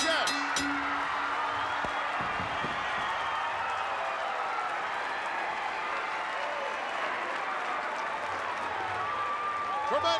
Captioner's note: applause